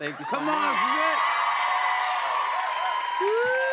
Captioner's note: cheers and applause continue